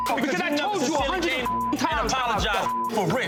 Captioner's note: beep